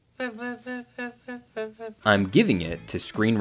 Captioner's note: Joanna babbling